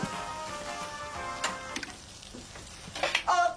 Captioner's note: switches off